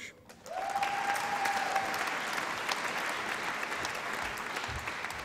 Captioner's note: applause and cheering